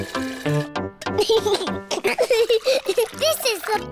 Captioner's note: giggles